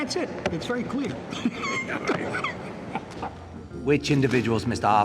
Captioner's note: laughing